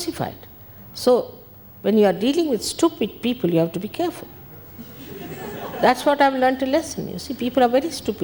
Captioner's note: people laugh